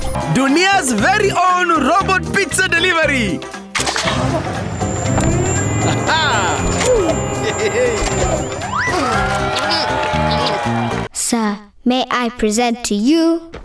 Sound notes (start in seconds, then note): 4.5 clicking and whirring; 8.5 crowd cheering; 10.1 Bongalalas exclaiming appreciatively